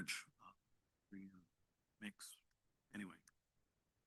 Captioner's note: speaks faintly